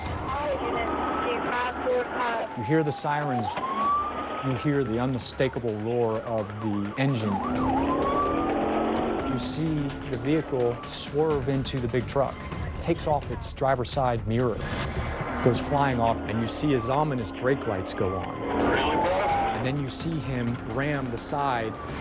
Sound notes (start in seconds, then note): 7.4 engine roaring